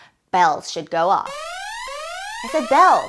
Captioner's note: sirens